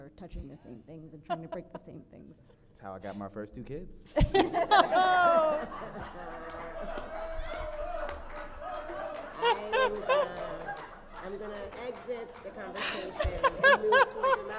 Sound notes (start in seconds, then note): 10.3 audience applauds